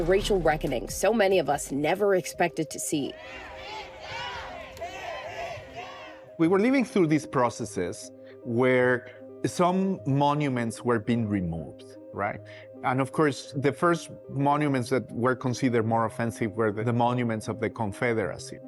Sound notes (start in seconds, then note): 3.1 crowd chanting "Tear it down!"